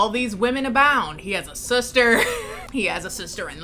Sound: laughs

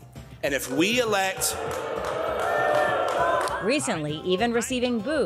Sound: crowd boos

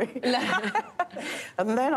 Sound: laughter

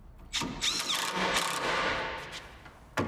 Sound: whirring rattling

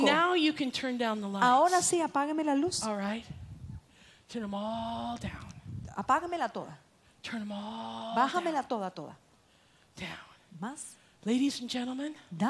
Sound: Spanish

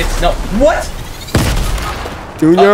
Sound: explosion detonating

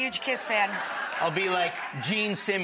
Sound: audience roaring

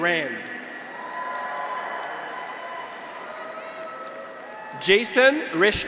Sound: graduates cheer; audience applauds

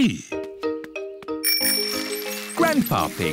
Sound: bell rings

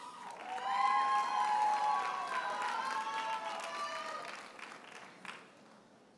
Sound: audience cheers and applauds

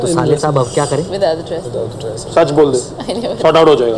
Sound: people chatting

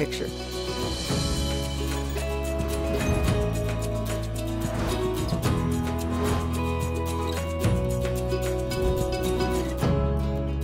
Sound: graphics whooshing

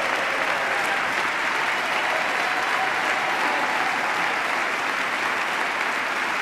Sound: applause

